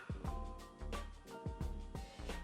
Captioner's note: disappointed in korean